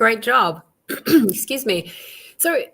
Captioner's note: clears throat